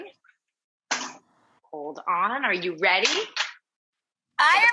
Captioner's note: metal clanks